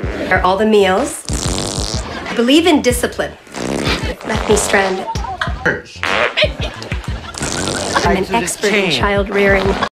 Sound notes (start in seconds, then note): 0.0 farts; 0.0 loud fart; 3.4 lengthy fart; 3.4 fart; 5.6 farts; 7.2 farts again